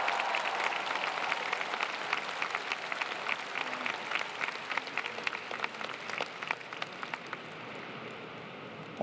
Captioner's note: applause